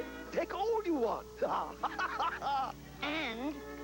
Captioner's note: laughs